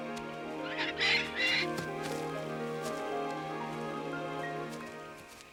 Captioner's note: Captain Flint squawking